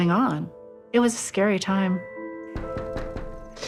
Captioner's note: door knocking